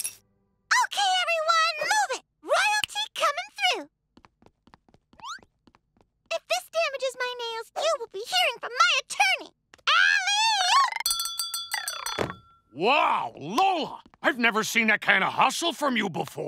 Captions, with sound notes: Okay, everyone, move it. Royalty coming through. If this damages my nails, you will be hearing from my attorney. Alley-oop! [bell ringing] Wow, Lola. I've never seen that kind of hustle from you before.